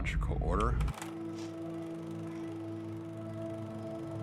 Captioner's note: movie reel clicks